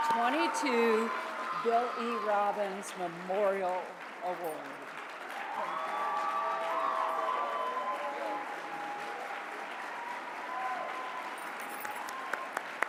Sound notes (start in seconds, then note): 4.7 cheering and applause